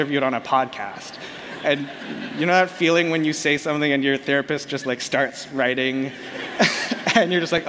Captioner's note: laughter